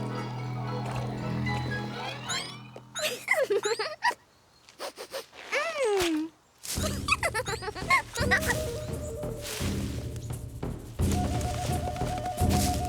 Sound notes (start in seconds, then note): 3.0 laughs; 4.8 sniff!; 6.9 laughing; 6.9 tribal music plays